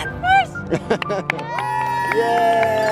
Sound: clapping and cheering

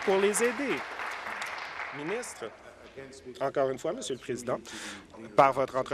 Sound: applause

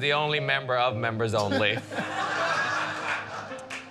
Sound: laughter

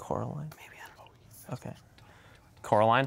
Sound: quietly; whispering

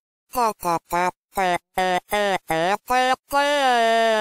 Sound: throatal noises

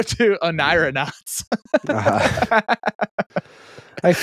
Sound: laughs

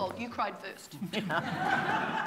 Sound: laughter

